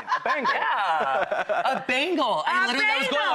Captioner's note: Kyan laughs